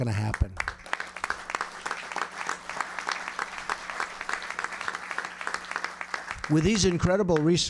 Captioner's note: applause